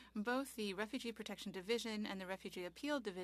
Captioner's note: speaking French